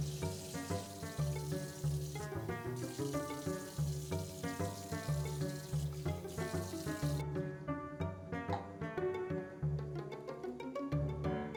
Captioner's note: water running